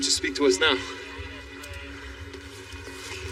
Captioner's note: police e radio chatteter